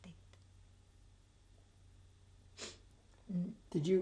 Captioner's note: pauses for 3 seconds